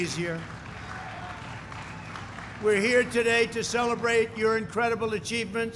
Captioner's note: applause